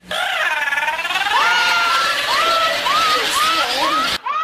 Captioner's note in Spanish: La chilindrina Llorando; Quico llorando